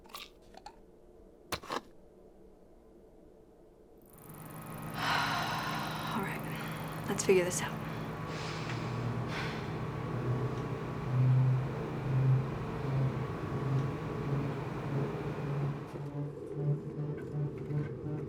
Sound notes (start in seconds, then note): 4.8 sighs